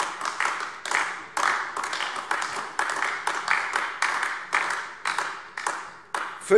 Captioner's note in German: Beifall AfD